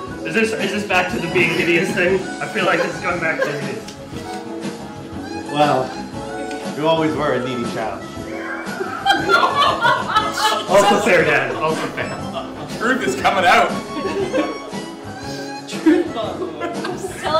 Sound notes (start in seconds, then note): 8.8 laughs